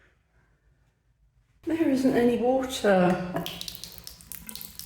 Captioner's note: tap dribbling